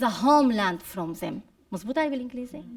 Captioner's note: speaking arabic